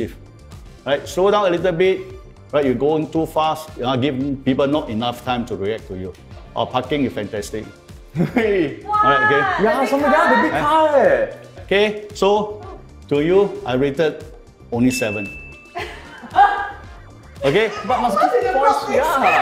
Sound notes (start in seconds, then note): 15.6 laughs